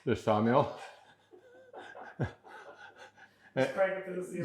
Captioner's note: both laughing